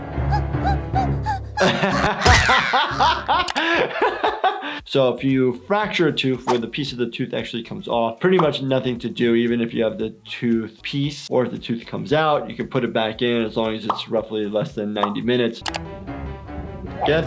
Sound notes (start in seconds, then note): 0.0 dramatic music; 2.6 laughing; 15.8 dramatic music